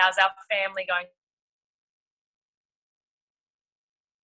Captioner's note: audio cuts out